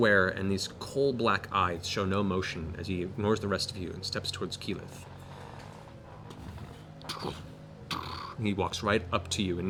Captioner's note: heavy footsteps